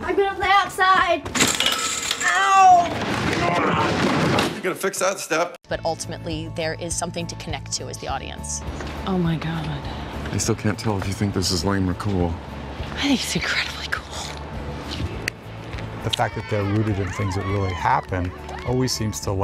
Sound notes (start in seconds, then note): 1.4 glass breaking; 3.3 objects falling